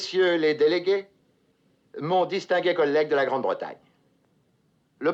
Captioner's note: speaking French